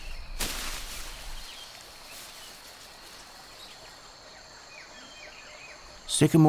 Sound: birds chirping. leaves rustling

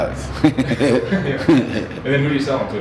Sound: laughing

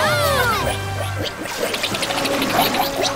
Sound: cheering

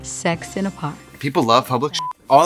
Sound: beep

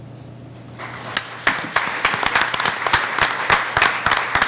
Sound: applauding

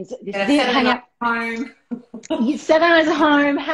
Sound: laughing

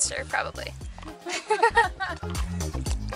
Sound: laughter

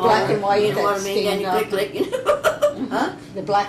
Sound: laughs

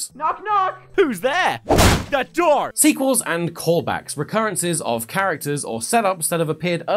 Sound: wham

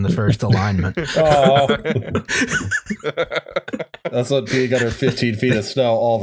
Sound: laughter

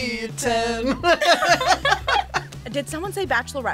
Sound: both laugh

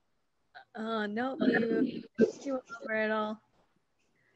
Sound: mumbles

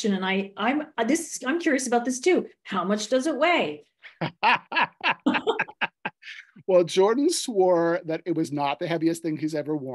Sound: laughter

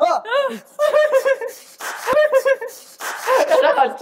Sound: spit

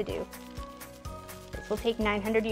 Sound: pouring rice

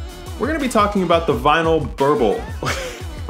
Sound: laughs

